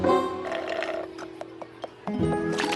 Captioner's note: slurp!